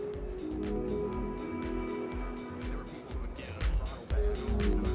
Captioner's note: dance music; chatter